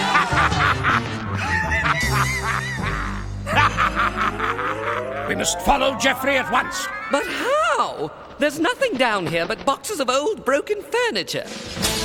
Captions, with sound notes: (Laughing) We must follow Geoffrey at once! But how? There’s nothing down here but boxes of old, broken furniture.